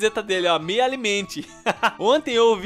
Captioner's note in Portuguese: risos